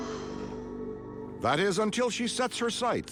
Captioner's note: gasps